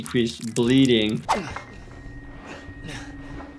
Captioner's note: man grunting